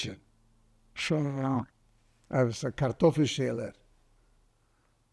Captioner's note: german